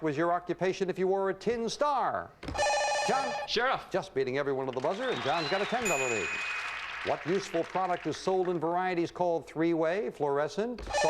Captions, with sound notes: In the Old West, what was your occupation if you were a tin star? John? Sherriff. Just beating everyone at the buzzer, and John's got a 10-dollar lead. [audience applauding] What useful product is sold in varieties called three-way,